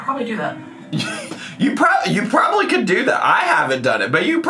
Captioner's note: laughs